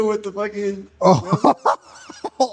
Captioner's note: laughs